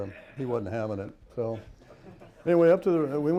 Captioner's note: laughter